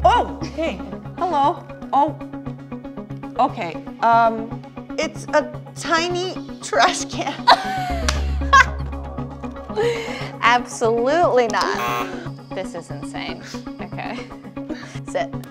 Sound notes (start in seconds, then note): 7.5 laughs; 11.7 buzzer sounds